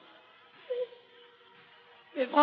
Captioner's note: sobs